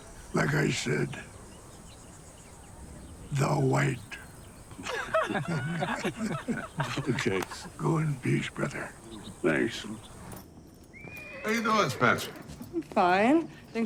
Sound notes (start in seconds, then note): 4.7 all giggling; 10.9 horse whinnying